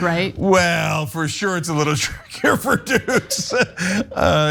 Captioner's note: laugh